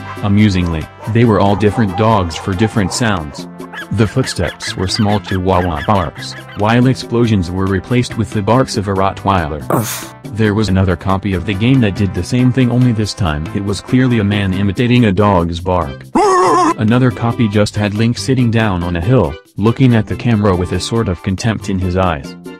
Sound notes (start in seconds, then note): 3.7 Chihuahuas barking